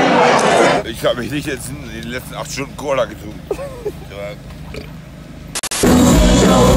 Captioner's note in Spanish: habla borracho